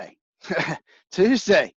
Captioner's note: laughs